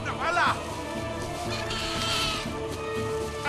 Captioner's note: bird squawks